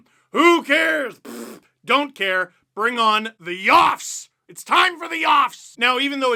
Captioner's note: fart noise